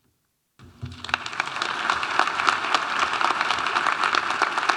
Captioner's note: audience applauding